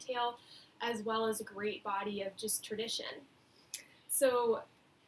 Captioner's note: Hebrew